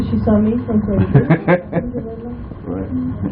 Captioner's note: laughing